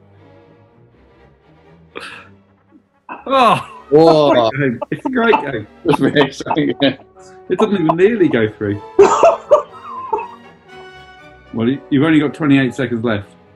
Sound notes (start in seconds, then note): 3.2 shouts of disbelief and laughing; 8.9 laughing